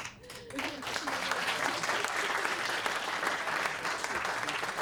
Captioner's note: applause